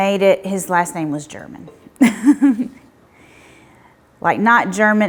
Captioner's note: chuckles